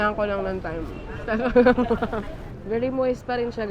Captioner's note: giggles